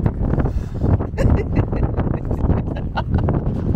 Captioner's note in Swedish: skratt